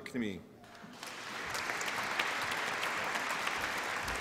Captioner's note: applause